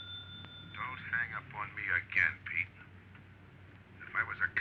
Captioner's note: on phone